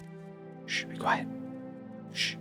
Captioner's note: whispering